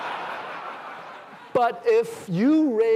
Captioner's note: laughter